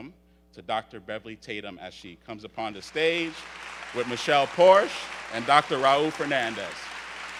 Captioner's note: audience cheers loudly